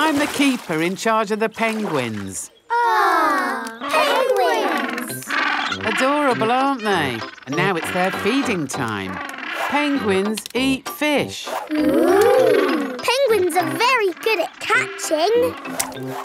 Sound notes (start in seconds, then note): 4.9 penguins chatter